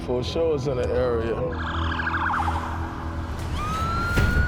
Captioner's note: siren wailing